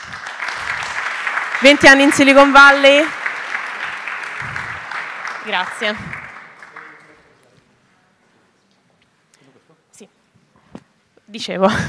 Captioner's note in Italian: Applauso